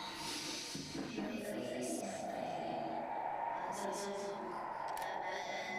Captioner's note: speaking in foreign language